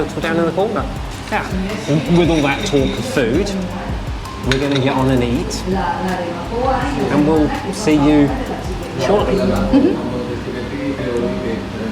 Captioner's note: laughter